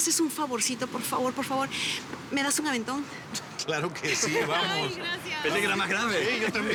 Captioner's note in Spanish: Risas